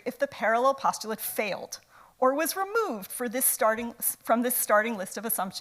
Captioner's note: none